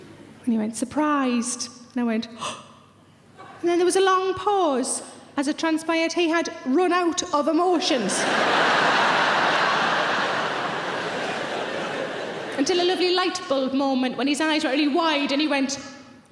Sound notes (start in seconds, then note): 8.0 audience laughing